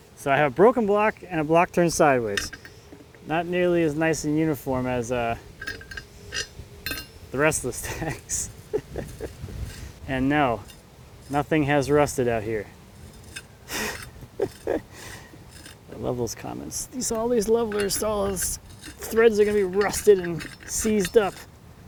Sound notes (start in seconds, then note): 5.8 metal clanking; 7.8 laughs; 13.6 laughs